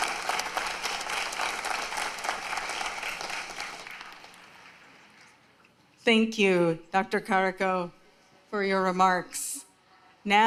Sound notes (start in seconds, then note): 5.0 applause